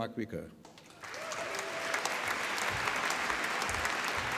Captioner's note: applause